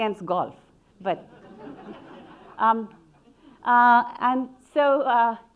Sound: audience laughing

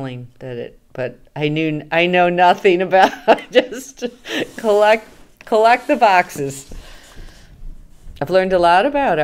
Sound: laughing

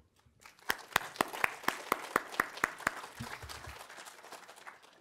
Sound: audience applauding

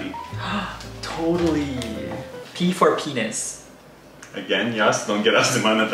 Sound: gasps

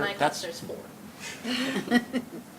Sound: laughter

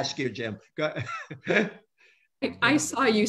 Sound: laughs

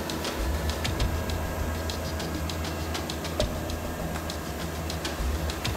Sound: machines whirring

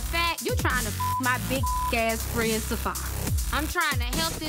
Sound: beep

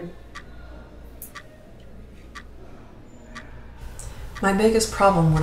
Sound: clock ticking

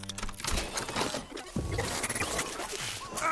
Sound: clicking, whirring

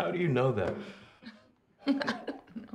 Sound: laughing

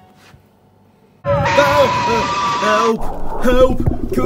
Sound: monster growls; Doofy screams

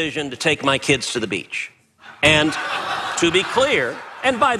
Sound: laugh

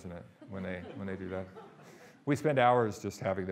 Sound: audience laughing

